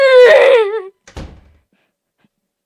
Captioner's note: door closed